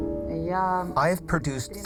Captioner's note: speaking foreign language